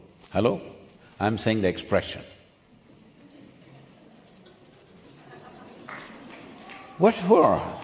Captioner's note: few laugh